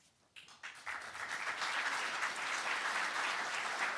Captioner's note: audience applauding